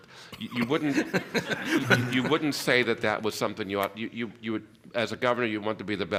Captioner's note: laughter